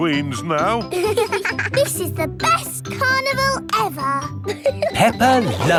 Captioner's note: both giggling